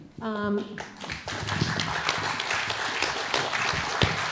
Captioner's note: audience applauding